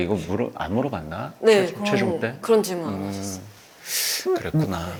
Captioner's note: confident